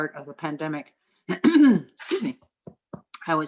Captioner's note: clearing throat